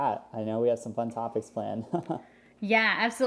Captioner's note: laughs